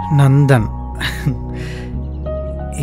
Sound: chuckles

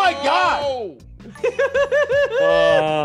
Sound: laugh

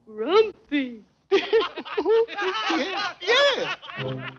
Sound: laughing

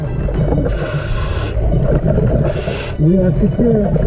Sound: bubbles churning; deep breathing

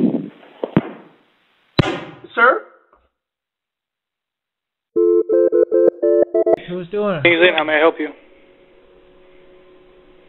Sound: phone ringing

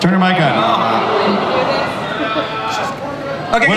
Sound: audience groaning

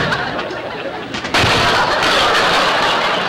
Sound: audience laughter; crunch; audience laughter

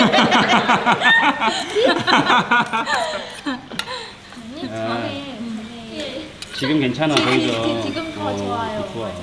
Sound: laughing while talking about mystery editing

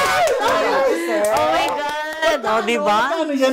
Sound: cheers

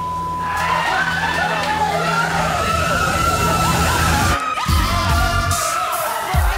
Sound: beeps; contestants yelling and laughing

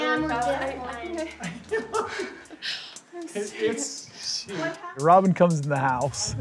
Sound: laughs

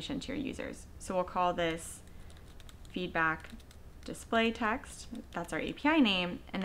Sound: typing

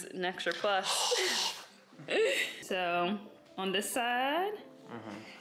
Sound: breathing

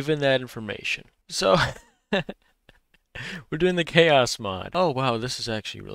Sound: laughs

